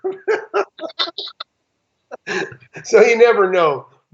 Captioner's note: laughing